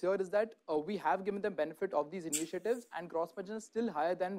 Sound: none

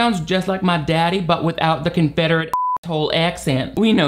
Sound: beeps

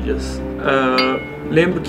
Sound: ding!

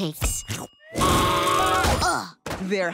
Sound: screaming

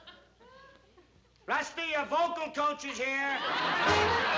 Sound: yelling

